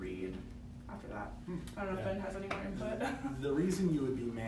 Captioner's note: laughs